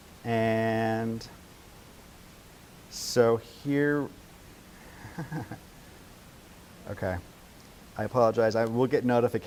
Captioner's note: laughs